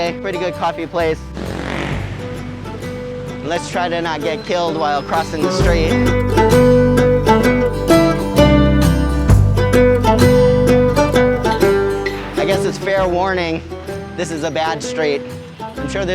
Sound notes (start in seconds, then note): 1.0 engine revving; 6.3 gentle upbeat music